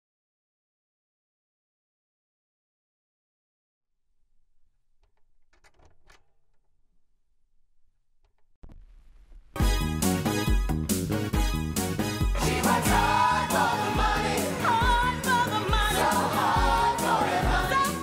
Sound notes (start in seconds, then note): 5.0 record clicking; 9.6 upbeat music